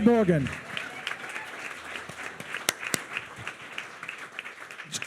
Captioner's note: attendees cheering continues